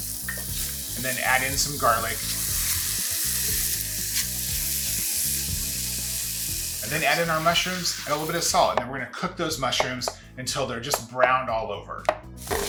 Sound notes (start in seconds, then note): 2.4 pan sizzling